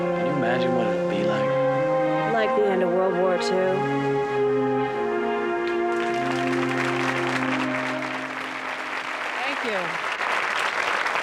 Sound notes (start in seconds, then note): 5.6 audience applauds